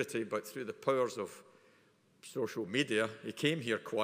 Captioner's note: none